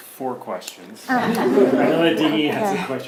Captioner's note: audience laughs